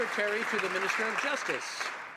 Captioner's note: some Applause